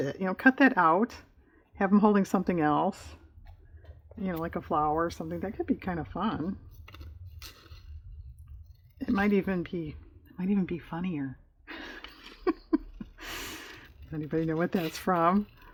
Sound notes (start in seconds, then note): 11.7 laughs